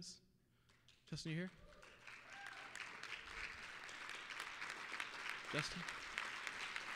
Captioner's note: applause